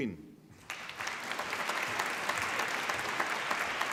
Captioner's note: applause